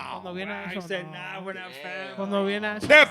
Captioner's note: speaking In Foreign Language